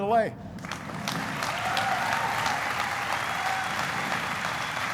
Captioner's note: applauding